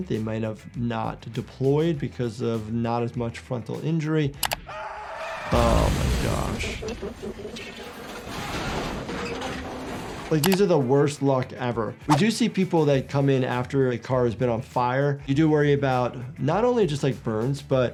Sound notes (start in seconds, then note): 4.7 driver shrieks; 5.5 explosion crashes; 7.1 metal creaks